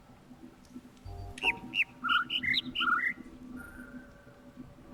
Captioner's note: overlapping birds chirping, ˥ ˥ ˩ ˧ ˩